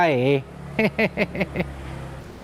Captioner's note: chuckle